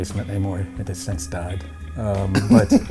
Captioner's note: laughs